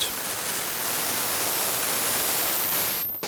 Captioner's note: hissing